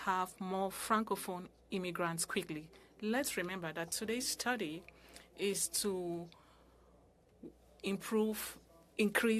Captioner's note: speaking french